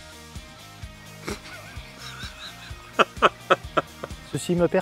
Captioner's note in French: Rires